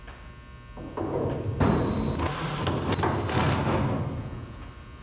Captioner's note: drilling